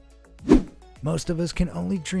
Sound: air whooshing

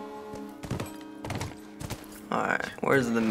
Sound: hoofbeat

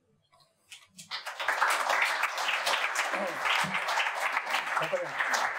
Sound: audience applauding

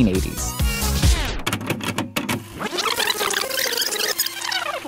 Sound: tape rewinding

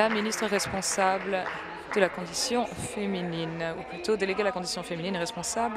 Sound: applause

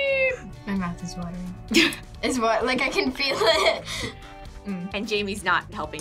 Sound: laughs

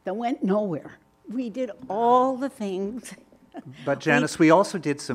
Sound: laughing

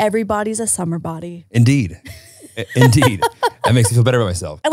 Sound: laughing

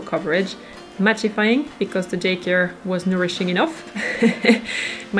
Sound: chuckles

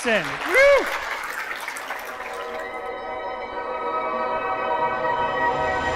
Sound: audience applauding and cheering

